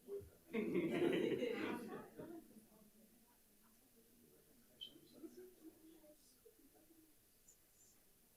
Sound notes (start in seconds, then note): 0.5 audience and participants laughing; 2.4 audience and participants chattering off microphone